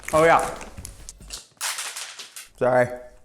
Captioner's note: clattering loudly